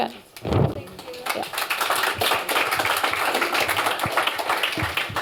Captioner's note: applause